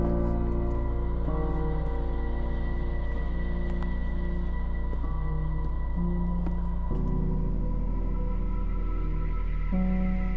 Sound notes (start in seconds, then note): none